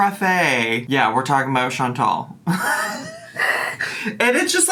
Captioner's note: laughing